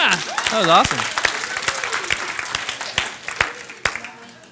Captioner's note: clapping